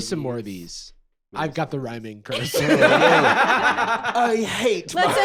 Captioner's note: all laughing